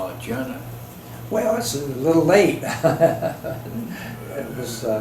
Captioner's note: Laughing